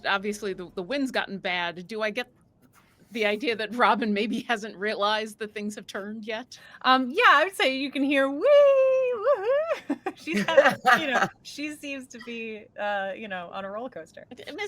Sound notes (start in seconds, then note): 9.7 chuckles